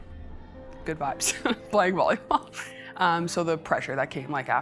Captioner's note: laughing